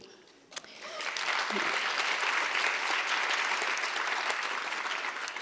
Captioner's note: audience applause